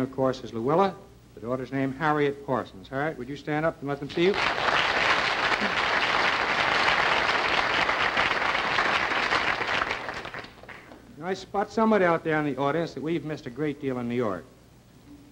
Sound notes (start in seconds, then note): 1.8 applause